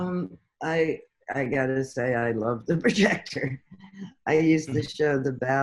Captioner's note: chuckles